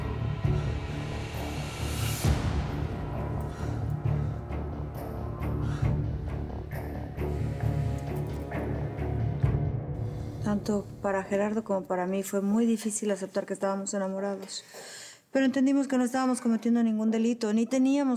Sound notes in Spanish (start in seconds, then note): 4.4 respiración alterada